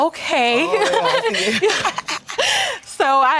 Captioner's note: laughs